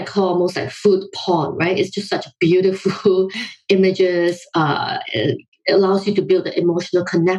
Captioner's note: laughs